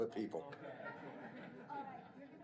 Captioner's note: laughter